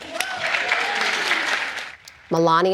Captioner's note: applause